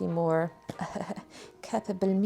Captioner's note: weird laugh